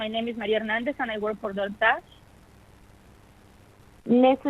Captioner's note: speaking in spanish